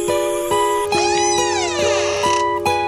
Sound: door Creaking Sound

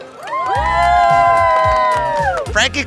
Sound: crowd cheering

